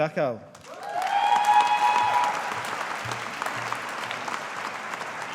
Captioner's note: audience applauding